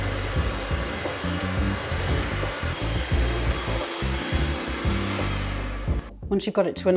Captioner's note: cake mixer whirring